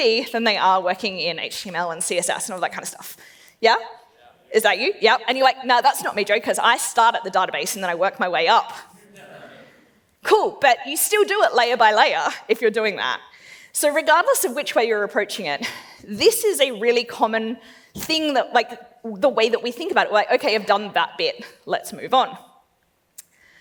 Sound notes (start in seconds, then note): 9.0 laughs